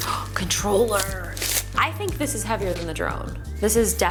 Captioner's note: gasps